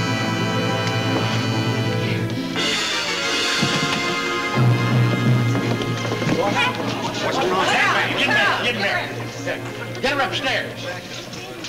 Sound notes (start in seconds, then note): 7.7 people chatter